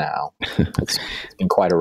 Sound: laughing

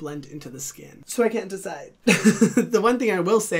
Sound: chuckles

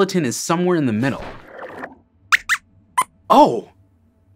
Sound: squeaks squeaks

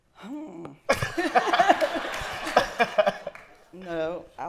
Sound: laughter

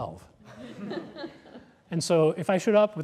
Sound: laughter

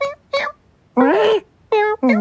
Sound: cat shrieks

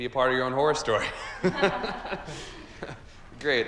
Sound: group chuckling

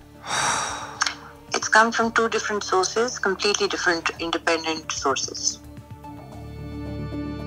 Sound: sighs

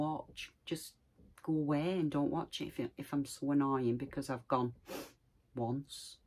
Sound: sniffle

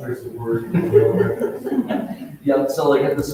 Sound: both laughs

